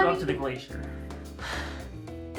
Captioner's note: sighs